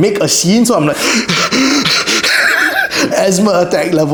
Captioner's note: hyperventilates